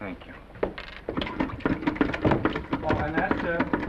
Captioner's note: handle pumps